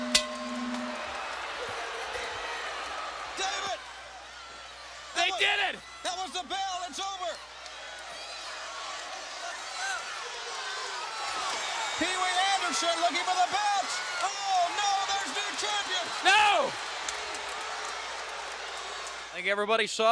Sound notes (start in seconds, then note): 0.0 bell ringing; 9.2 crowd chatter